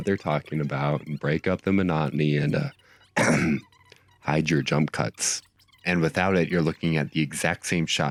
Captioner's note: ahem